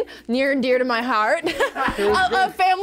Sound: laughs

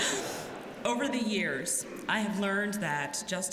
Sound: laughter

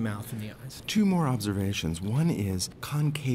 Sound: voiceover

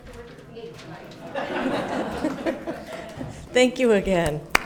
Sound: all laughing

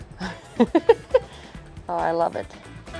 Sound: giggling

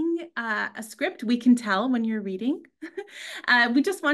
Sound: chuckles

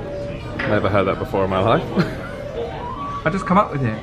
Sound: chuckles

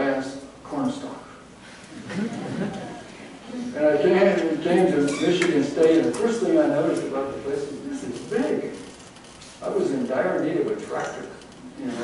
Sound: laughter

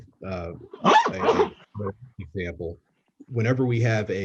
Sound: loud zip drowns out speaker

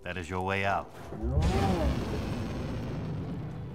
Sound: grunt

